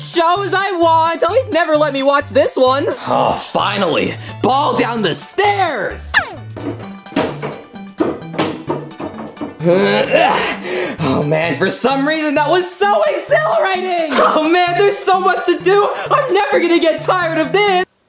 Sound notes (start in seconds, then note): 5.5 joyful music; 6.1 ball tapping